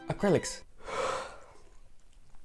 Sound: sighs

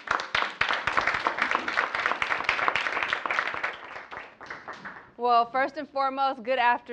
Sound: applause

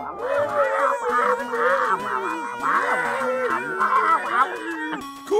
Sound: grumbling noises; dragon heads making silly noises

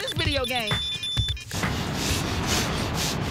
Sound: blowing

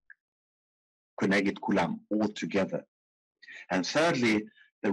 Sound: speaking in foreign language

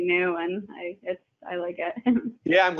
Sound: chuckling

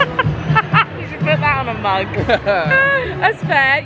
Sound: laughing

